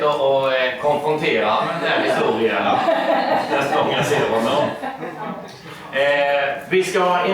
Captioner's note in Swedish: skratt